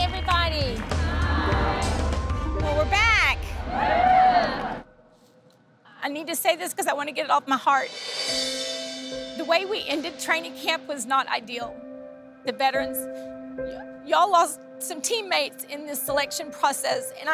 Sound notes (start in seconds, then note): 3.5 cheering; 7.8 dramatic music